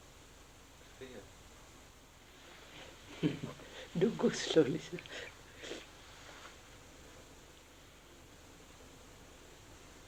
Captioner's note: laughs